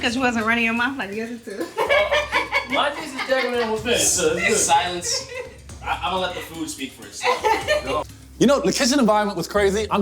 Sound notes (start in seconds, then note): 1.7 laughing